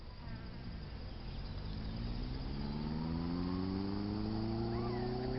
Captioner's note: engine revving